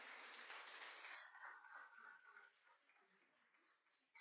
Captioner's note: applauding